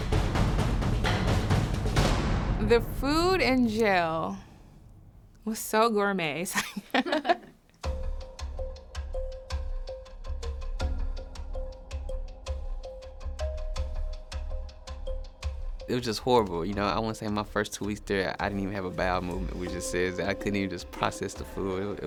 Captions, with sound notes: [suspenseful music] The food in jail was so gourmet. [laughter] It was just horrible, you know. I want to say, my first two weeks there, I didn't even have a bowel movement, which just says that I couldn't even just process the food.